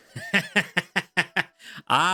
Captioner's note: laughing